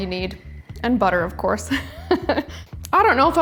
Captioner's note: laughs